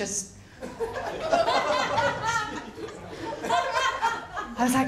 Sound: laughter

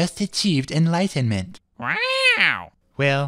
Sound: squawk

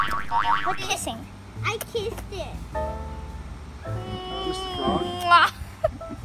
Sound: kissing Sounds

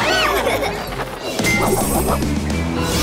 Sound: giggling

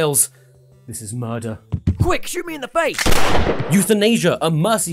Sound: gunshot

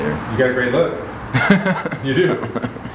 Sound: laughing

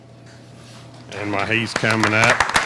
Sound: clapping

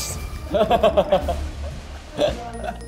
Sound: hahahahahaha

